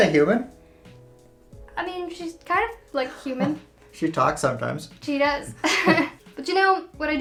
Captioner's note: laughs